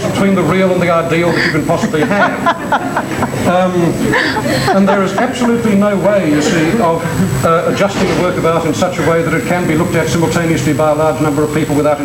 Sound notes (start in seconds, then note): 1.2 crowd laughs